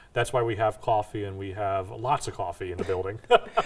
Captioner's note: laughs